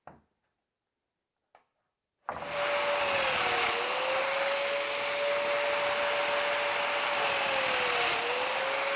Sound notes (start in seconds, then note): 2.5 machine whirring